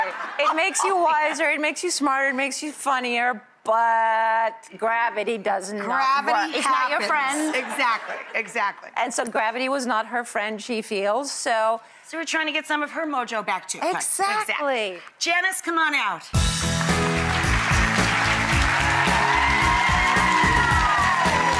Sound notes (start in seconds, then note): 16.4 audience cheering and clapping; 18.9 cheery music